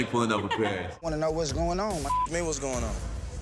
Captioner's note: beep